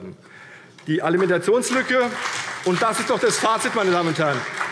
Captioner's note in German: Beifall CDU und vereinzelt BÜNDNIS 90/DIE GRÜNEN